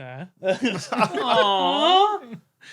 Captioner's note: group cracks up